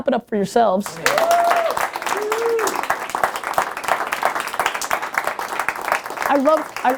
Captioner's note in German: Gruppe jubeln und applaudieren